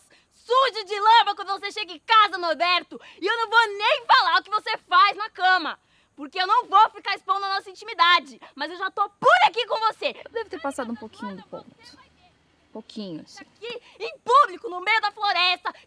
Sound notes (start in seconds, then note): 8.7 keeps screaming